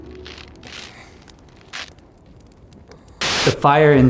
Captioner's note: gentle morose music; snow rasping